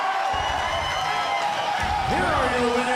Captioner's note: crowd cheering